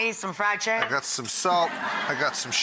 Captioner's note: laughs